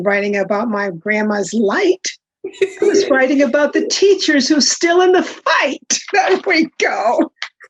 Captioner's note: laughs